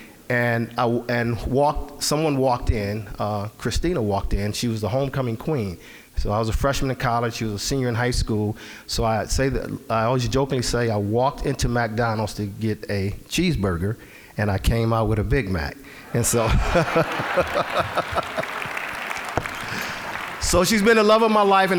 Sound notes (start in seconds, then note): 16.0 all laughing; 18.4 applause